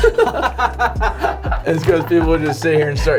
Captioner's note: laughing